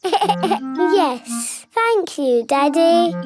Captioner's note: giggles